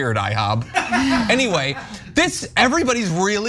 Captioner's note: laugh